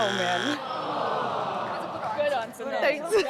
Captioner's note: buzz; audience sighs